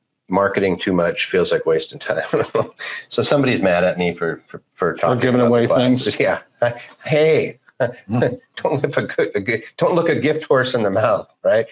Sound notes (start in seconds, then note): 1.9 laughs